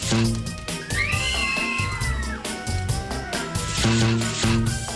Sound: kids scream

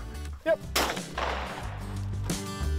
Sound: gun fires; uplifting music

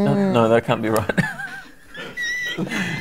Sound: laughter

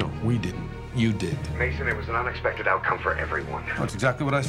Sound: Bauer, phone

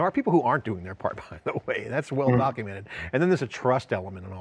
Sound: laughs

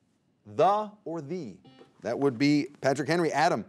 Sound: buzzer beeping

